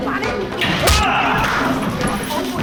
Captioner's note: Jewel screams